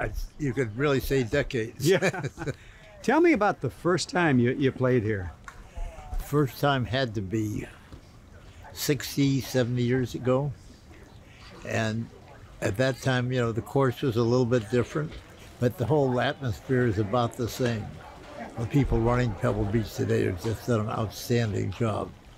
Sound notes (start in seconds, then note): 1.8 laughs